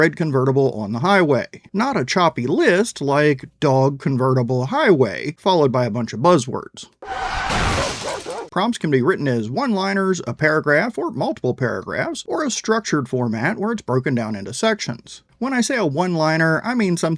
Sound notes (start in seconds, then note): 7.0 brakes squealing; 7.8 dog barking